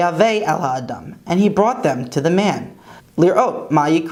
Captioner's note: Hebrew